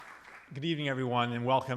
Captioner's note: audience applauding